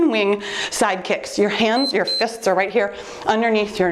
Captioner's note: timer beeps